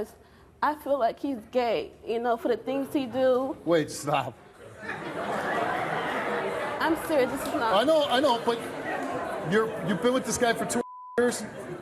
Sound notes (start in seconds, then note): 4.7 audience laughing